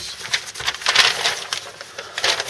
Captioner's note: paper rustling